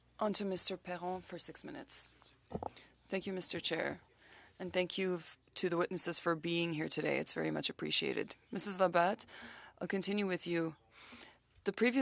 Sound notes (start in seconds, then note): 5.6 speaking French